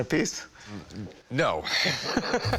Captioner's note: both laughing